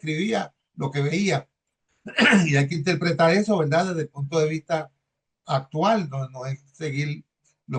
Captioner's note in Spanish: carraspeo